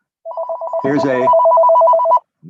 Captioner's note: phone ringing